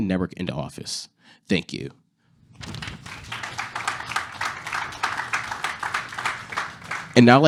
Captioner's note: applause